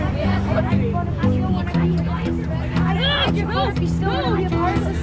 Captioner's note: acoustic music; kids mumbling